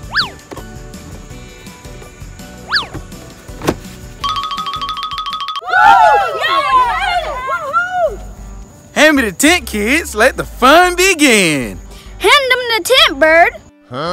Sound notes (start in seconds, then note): 0.2 swish; 5.6 kids yelling joyfully